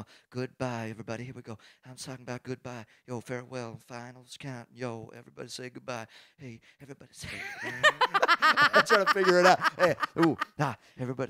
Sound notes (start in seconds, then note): 7.2 both laugh; 10.0 laughs